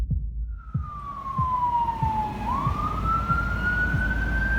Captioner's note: sirens